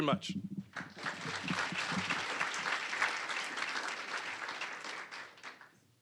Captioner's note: applause